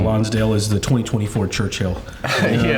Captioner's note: chuckle